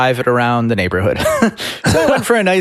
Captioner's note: chuckles